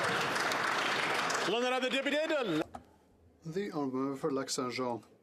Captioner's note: applause